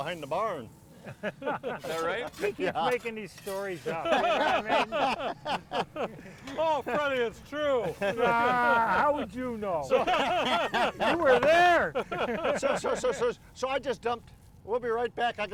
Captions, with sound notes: (all laughing) - Is that right? - Yeah. - He's making these stories up. (all laughing) You know what I mean? (all laughing) - Oh, Freddy, it's true. - How would you know? (all laughing) You were there! - So I just dumped... We'll be right back, I gotta mash some potatoes